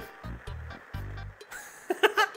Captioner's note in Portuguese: risos